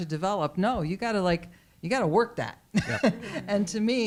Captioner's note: laughs